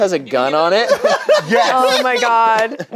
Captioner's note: laughs